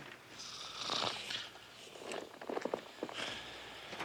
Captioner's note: snoring